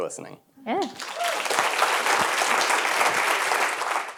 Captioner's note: applause